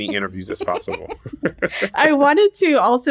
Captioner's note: laughter